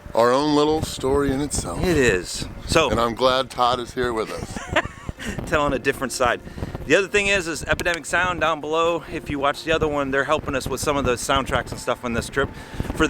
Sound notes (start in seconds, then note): 4.2 laughs